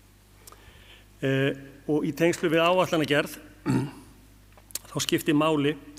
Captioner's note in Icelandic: ræskir sig